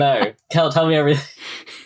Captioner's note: laughing; laughs